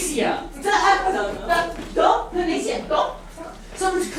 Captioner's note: arguing in grammelot